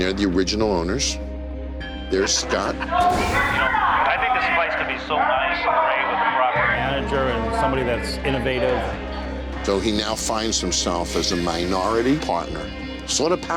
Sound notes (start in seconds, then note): 3.0 people chattering